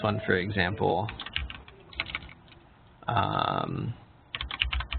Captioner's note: keyboard clicking